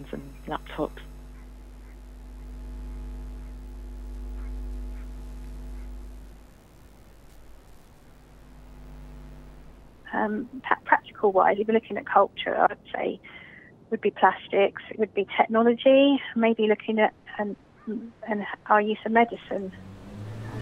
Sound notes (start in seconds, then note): 0.0 static